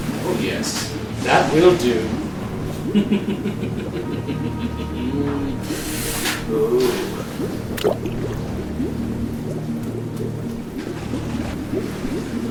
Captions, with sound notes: - Oh yes, that will do. (Chuckling) (Fluid bubbling)